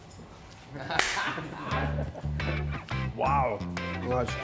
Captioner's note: all laughing